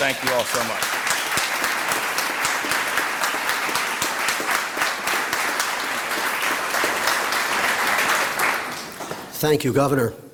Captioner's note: applause